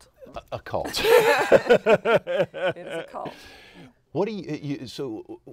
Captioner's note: laughter